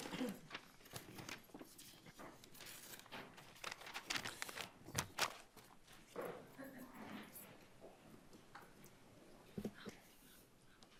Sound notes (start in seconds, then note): 0.0 coughs; 3.4 papers rumpling